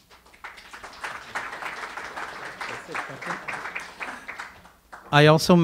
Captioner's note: audience applause